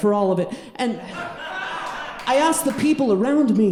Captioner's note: audience laughing